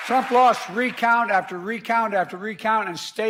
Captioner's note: applause